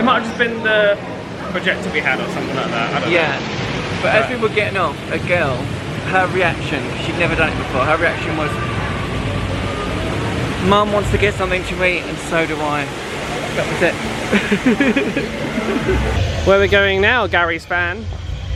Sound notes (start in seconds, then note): 14.2 both laugh